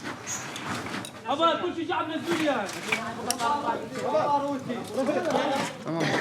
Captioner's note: speaking in foreign language